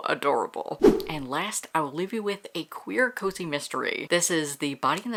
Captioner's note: whoosh